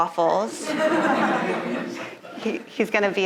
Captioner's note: audience laughing